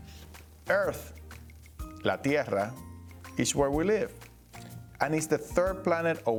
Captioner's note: speaking Spanish